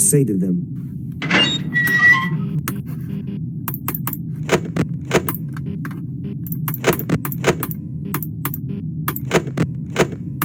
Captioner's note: Sons de mouse